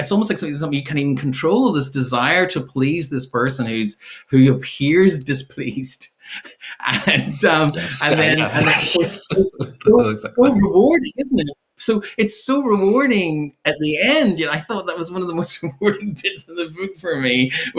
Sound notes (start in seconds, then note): 6.2 chuckles